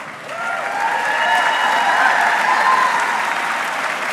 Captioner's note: audience cheering